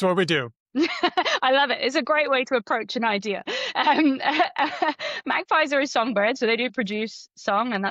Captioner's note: laughs